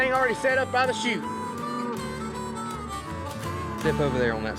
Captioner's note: mooing